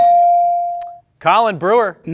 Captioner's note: bell ring